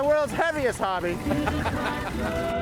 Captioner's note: laughter